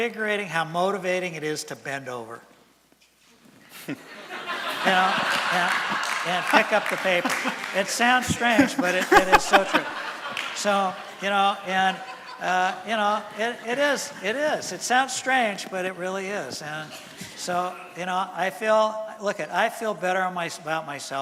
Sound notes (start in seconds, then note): 3.6 laughter and applause from audience